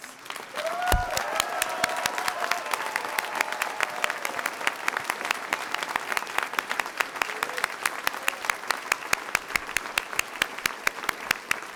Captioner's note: applause